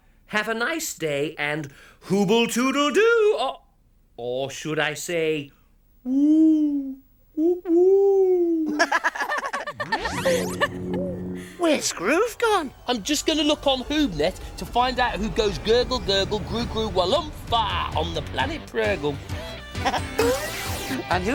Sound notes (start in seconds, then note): 5.5 Hubba Hubba hoots; 7.4 Hoobs laugh; 10.0 soft zap; 17.6 upbeat music